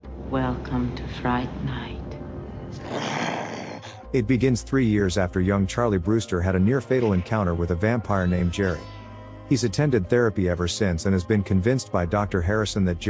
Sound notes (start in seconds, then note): 2.6 grrr